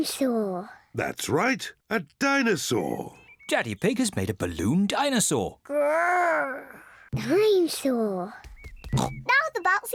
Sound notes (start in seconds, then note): 4.9 growls; 8.9 oinks